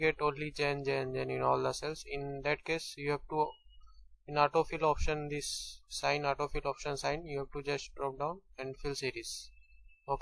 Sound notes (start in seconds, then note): 3.8 click